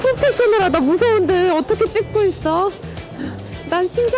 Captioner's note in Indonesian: tertawa